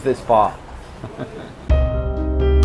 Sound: chuckles; gentle music

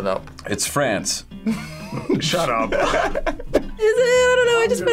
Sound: laughs

